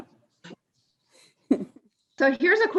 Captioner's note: laughs